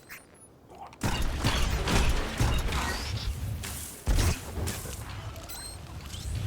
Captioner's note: gunshots